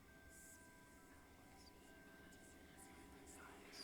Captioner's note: eerie whispering